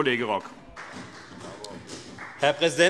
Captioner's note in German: Beifall CDU